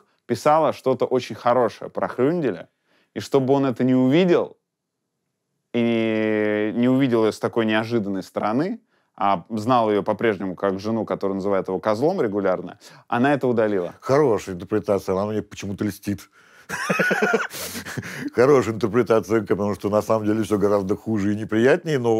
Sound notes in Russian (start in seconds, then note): 16.7 смеется